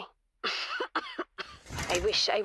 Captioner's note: coughing